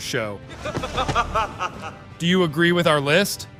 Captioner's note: evil Laughter